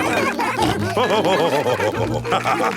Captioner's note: laughing; all cheering